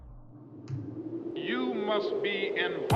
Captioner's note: wind